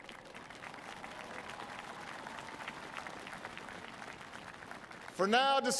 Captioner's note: applause